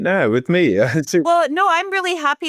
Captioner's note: laughing